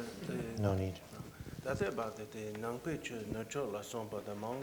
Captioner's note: non-english speech